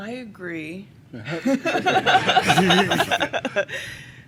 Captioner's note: laughter